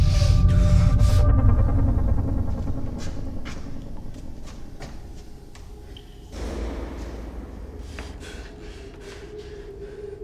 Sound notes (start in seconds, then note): 2.4 creepy drips, distant banging